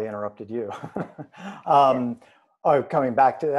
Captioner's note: chuckles